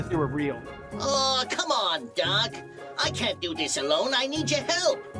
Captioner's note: in bugs bunny voice